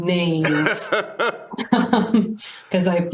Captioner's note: laughter